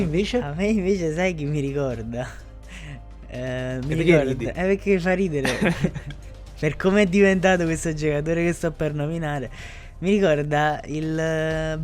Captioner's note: starts laughing